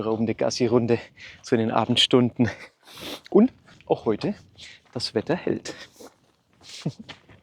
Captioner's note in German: schnauben